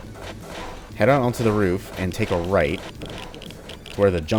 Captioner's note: geiger Counter clicking